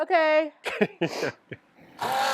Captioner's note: laughs; pump roaring